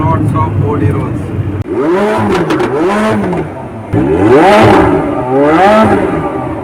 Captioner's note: Roar of McLaren 720s